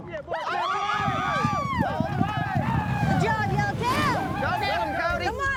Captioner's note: cowboys shout encouragement